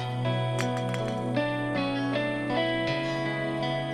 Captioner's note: can clatters